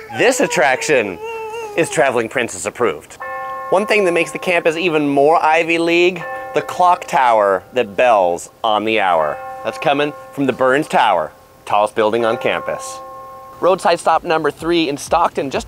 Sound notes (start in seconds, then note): 3.3 bell dings